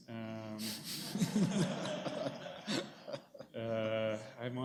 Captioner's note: laughter